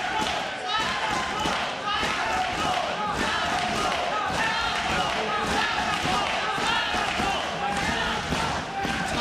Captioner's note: audience chanting "adam cole"